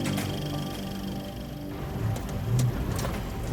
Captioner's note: projector whirring